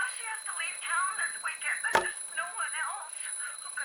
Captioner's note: alarm ringing